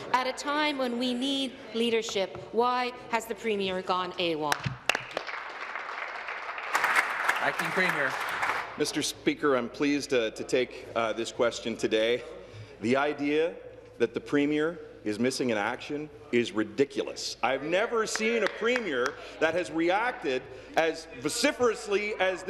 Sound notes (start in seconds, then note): 7.2 applause